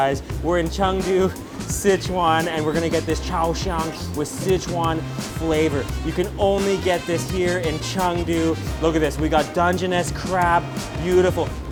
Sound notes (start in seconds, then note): 3.4 foreign language